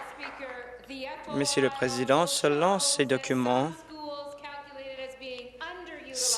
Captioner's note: applause